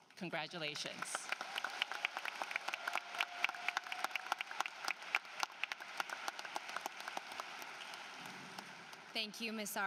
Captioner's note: applause